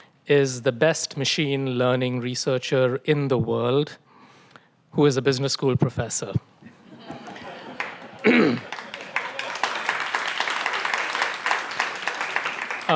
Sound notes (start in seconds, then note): 6.8 audience laughs and applauds